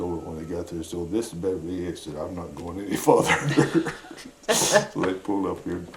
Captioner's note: laughs